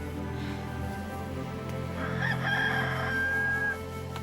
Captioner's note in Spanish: gallo canta